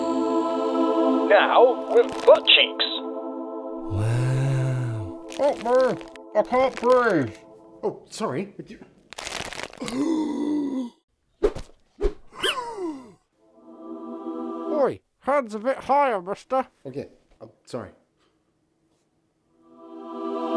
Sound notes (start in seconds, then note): 9.8 handsome gasp; 10.9 squeezy squeeze